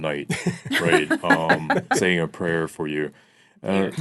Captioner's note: laughing